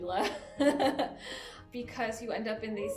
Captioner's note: giggling